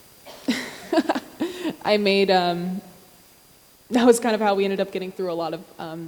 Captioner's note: laughs